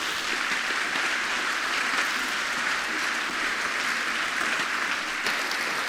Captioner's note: applause